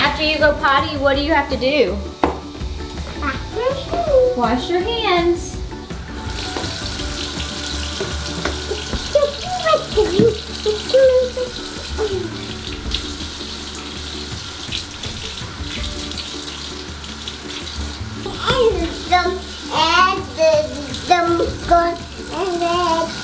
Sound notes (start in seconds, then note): 6.0 tap water running; 12.3 tap water running; 13.2 upbeat music